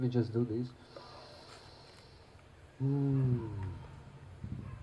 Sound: takes a deep breath

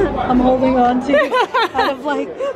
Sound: laughing

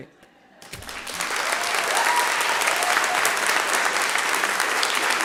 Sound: attendees applauding

